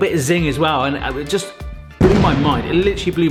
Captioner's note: explosion booms